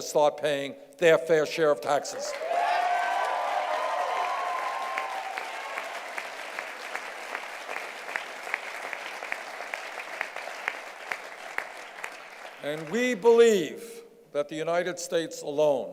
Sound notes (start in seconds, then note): 2.2 cheers and applause